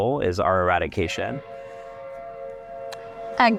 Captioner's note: ship horn